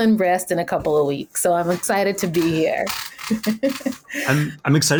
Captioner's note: laughs